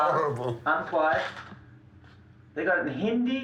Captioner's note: foreign Language Spoken